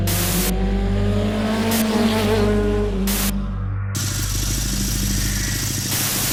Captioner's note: static; motorcycle engine roar; static